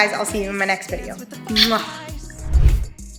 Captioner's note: kiss